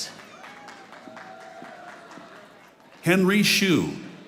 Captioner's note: audience applauding